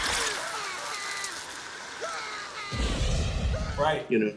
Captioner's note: screaming; roaring